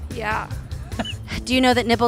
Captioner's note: chuckles